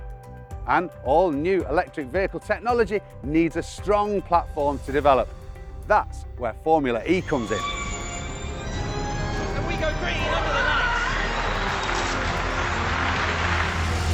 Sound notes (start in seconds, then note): 6.8 car screeching; 11.1 tires screeching; 11.9 car engines roaring